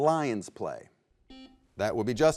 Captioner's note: buzzer beeps